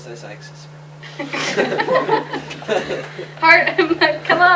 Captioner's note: laughter